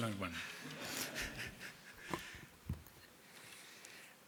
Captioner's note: attendees laughing